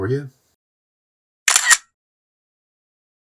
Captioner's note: camera click